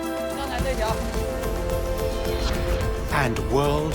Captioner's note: speaking Tibetan